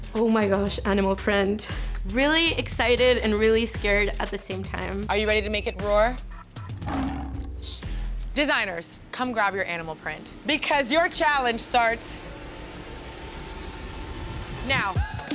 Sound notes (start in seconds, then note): 6.8 tiger roaring; 14.4 upbeat music